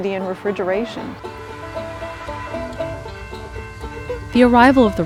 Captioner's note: train horn blowing, bell dinging